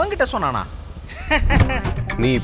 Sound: laughs

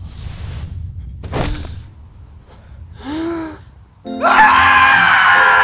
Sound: body thudding; Lucy gasps; bright music; Lucy and Benson screaming

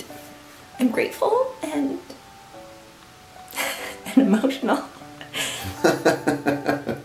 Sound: laughing

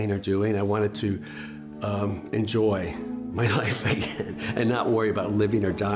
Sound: laughs

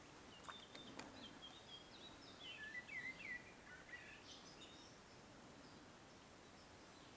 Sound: birds chirping constantly

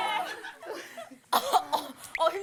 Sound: cough

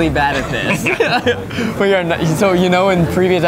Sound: laughs

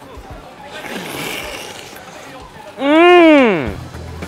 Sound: slurping

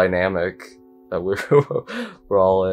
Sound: laughs

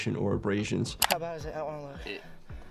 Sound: graphic clicks

